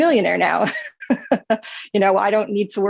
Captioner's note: laughs